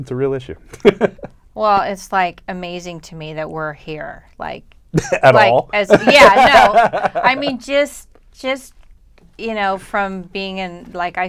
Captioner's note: laughter